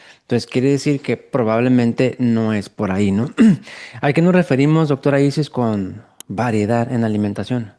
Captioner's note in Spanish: carraspeo